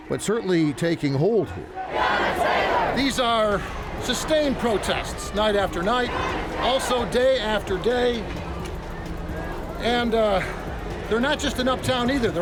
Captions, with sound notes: but certainly taking hold here. (crowd chanting) These are sustained protests night after night. Also day after day. And they're not just an uptown either,